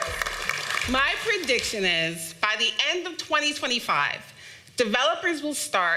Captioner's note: applause